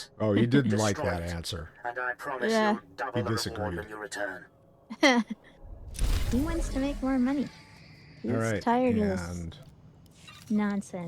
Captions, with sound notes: - Oh, you didn't like that answer. - And I promise you double the volume you return. (laughing) - He wants to make more money. He's tired of this. - All right, and. - Nonsense.